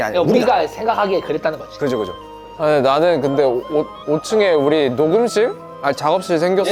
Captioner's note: none